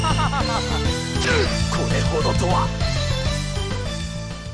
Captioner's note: grunt